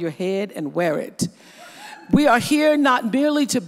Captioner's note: audience hoots